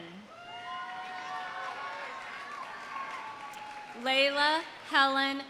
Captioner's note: audience cheering; audience applauding